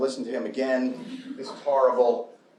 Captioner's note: chuckling